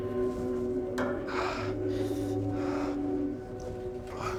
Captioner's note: slate breathing heavily